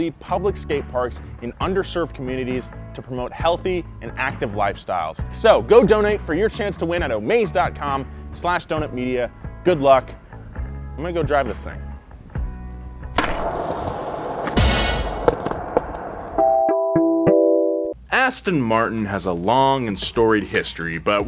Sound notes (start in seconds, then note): 13.0 skateboard whirs; 14.4 fanfare bangs; 16.5 logo jingles